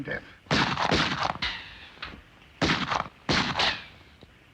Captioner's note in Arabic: طلقات نارية